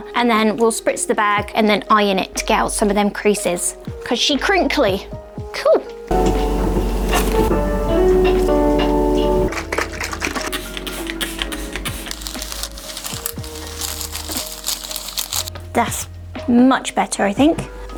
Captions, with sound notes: And then we'll spritz the bag and then iron it to get out some of them creases. Cause she crinkly. Cool! (upbeat music) (plastic crinkling) That's much better, I think.